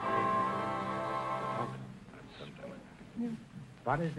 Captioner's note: whispering